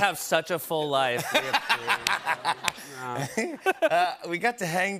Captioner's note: laughter